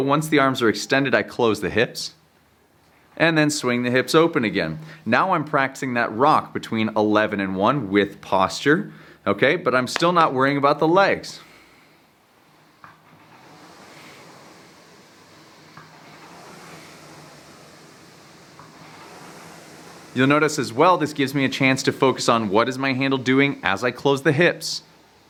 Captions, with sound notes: Once the arms are extended, I close the hips, and then swing the hips open again. Now I'm practicing that rock between 11 and one, with posture, okay? But I'm still not worrying about the legs! (machine whizzing) You'll notice as well, this gives me a chance to focus on what is my handle doing as I close the hips?